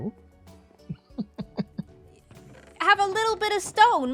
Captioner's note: laughs